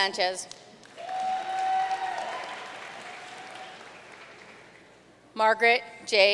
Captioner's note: audience cheering and applauding